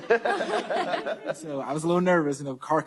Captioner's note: laughter